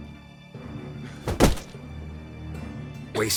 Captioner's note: punch lands